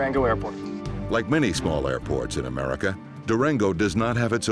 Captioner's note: voiceover